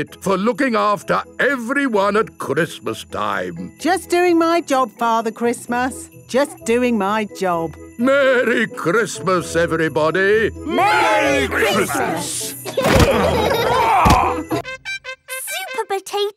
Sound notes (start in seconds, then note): 12.6 laughing